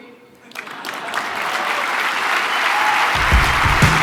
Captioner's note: audience applause; upbeat music